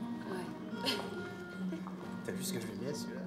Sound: julie laughing

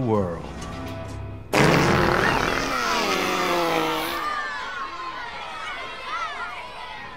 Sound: screams, laughing and talking

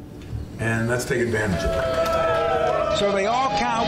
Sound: team cheering

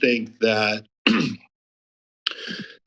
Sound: clears throat; clicks tongue

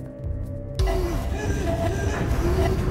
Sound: gasping

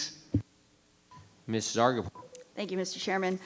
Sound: microphone beeping

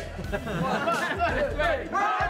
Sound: laughter

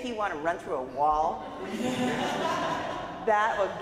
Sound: audience laughs

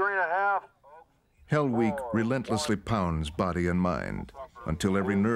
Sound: voiceover

